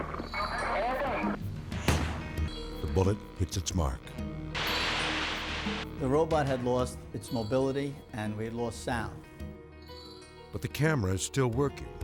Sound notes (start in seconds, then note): 1.8 gunshot popping; 4.6 video recording sizzling